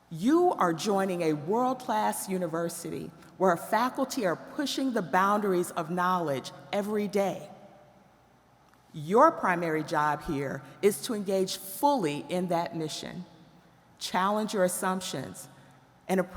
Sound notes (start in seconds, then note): none